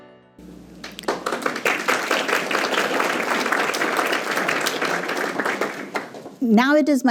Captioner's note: applause